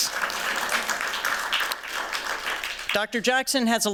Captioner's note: applause